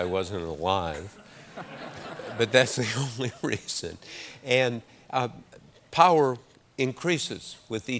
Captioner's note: laughter